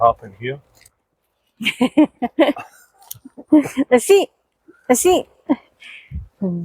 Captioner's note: laughter